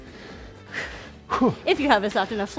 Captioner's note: breathes heavily